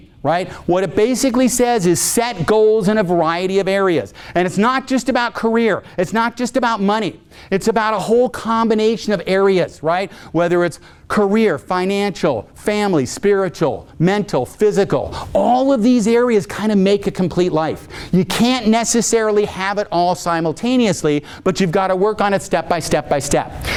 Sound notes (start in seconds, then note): none